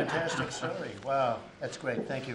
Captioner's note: laughter